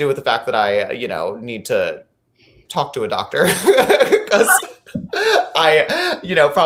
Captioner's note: laughing